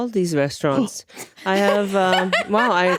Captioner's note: laughing